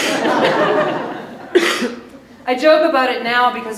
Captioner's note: audience laughs